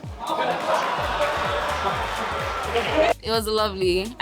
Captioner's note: crowd